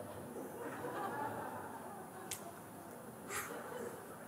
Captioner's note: Lachen